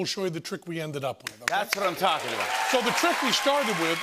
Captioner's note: cheers and applause